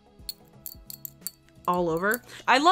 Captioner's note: earrings jingling